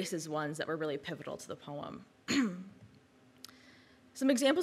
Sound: clears throat

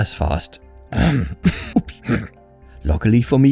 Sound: ahem,cough,oops,hhrrmm

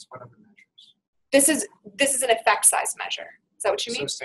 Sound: voiceover

